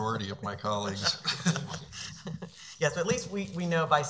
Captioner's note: laughing